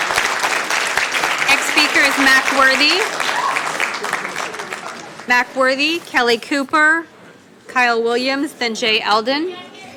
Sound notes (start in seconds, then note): 3.7 cheering and applause